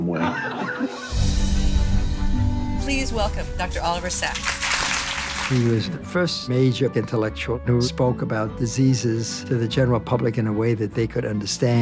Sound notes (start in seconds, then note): 6.2 people clapping